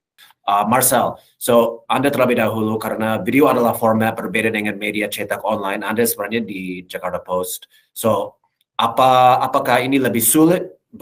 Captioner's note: non-english speech